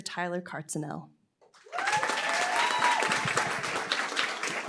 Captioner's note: applause, cheering